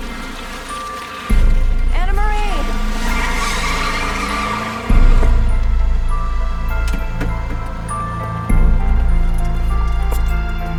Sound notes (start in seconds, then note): 3.5 tires squealing; 6.4 tense music